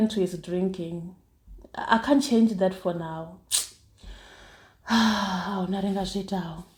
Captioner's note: sigh